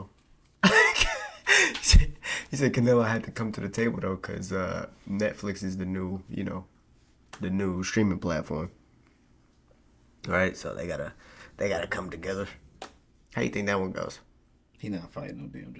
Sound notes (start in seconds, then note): 0.6 laughing